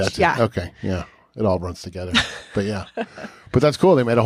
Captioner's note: chuckles